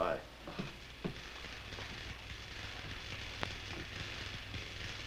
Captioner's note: computer buzzing